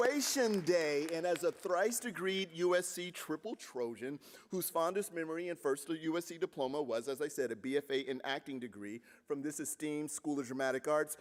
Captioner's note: applause